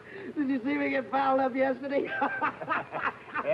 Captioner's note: happy laughing